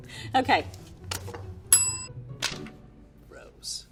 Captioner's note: bell rings